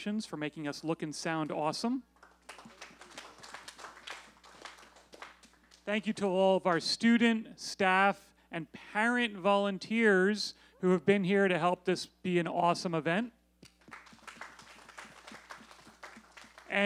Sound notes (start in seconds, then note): 2.1 applause; 13.7 applause